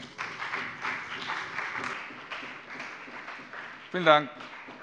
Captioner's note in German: Beifall bei dem BÜNDNIS 90/DIE GRÜNEN und der CDU